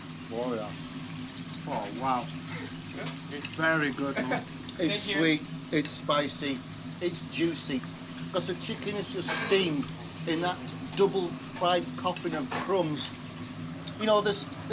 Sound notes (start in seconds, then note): 4.0 chef chuckling